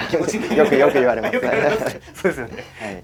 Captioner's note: laughs